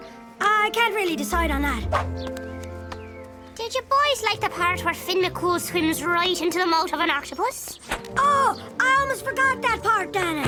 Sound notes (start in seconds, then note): none